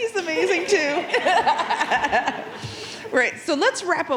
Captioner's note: audience laughing